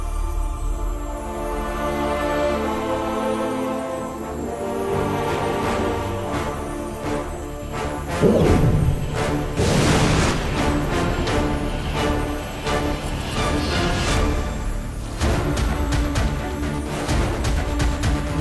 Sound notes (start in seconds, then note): 5.2 suspenseful music plays; 8.1 whooshing sound; 15.1 suspenseful music plays